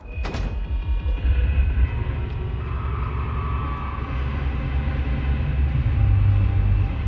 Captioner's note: door clicking